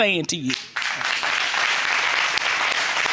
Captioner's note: audience applauding